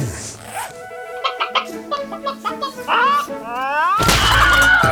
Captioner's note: chicken clucking